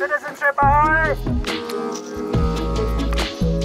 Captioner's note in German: Bootshorn ertönt